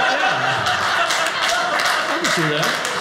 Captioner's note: audience laughing